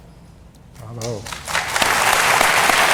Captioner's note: applause